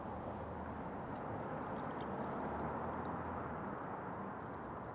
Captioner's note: liquid trinkling